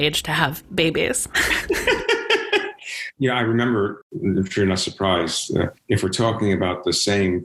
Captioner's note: all laugh